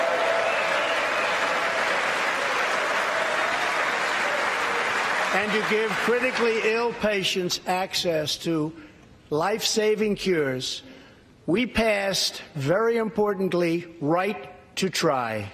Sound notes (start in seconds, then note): 4.3 applause